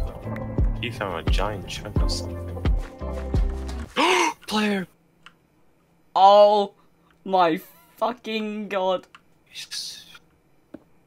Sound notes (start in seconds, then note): 3.9 intense gasp